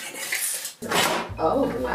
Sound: Instant Pot clanking

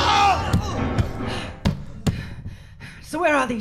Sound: thuds

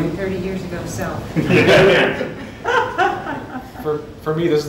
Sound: laughter

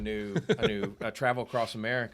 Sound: laughing

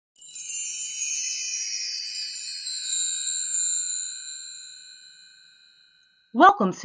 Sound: chimes

